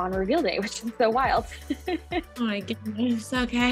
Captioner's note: laughs